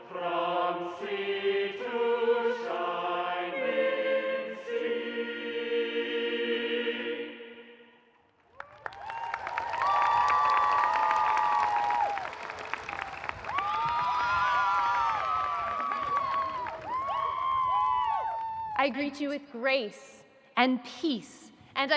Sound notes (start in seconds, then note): 8.3 audience applauding; 8.5 audience cheering